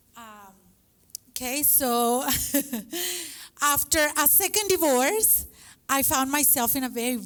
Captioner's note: laughs